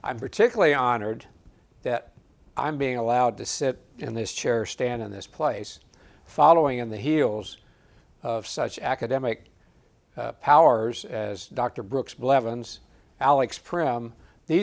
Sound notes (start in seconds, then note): none